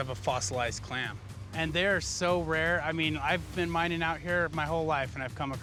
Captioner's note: none